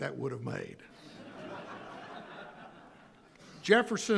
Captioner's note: audience laughing